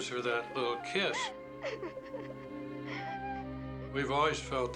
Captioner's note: crying